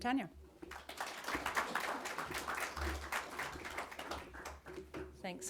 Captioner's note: audience clapping